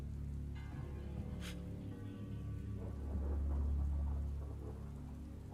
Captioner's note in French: Zhou inspire brusquement